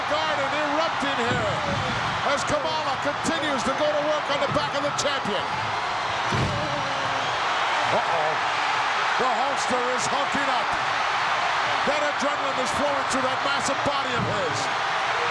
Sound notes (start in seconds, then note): 6.9 audience cheering